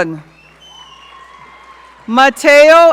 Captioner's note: audience cheering